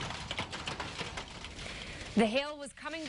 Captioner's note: nats of hail hitting ground